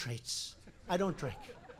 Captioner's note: laughter